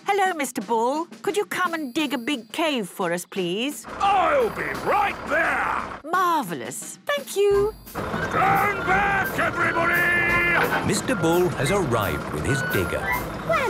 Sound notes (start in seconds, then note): 8.2 shouting